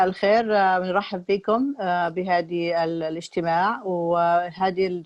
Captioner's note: woman speaking in Arabic